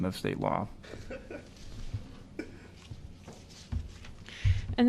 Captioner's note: laughter